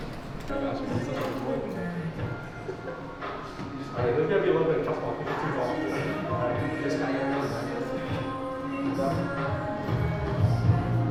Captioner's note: indistinct chatter